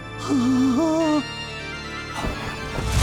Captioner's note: whimpering